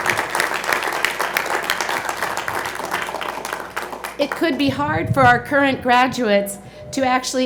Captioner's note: applause